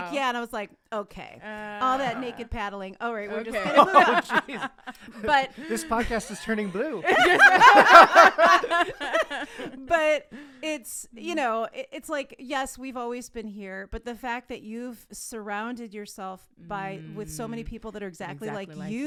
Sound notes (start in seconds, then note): 7.0 all laughing